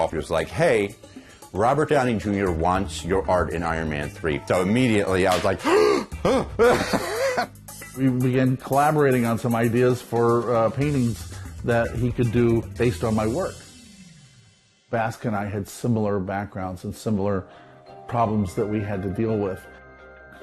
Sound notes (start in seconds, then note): 5.6 gasps